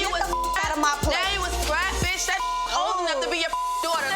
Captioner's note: beep; beep